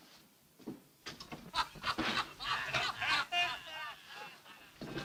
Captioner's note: men laughing in next room